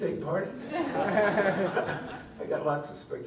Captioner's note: laughter